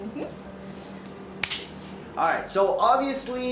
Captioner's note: fingers snap